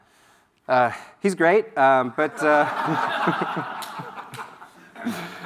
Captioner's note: audience laughs